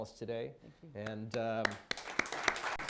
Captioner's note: applause